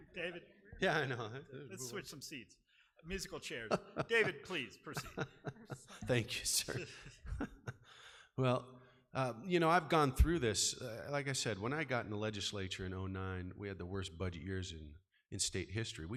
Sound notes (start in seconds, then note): 3.1 laughing